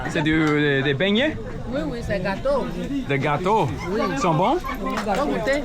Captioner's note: people speaking in foreign language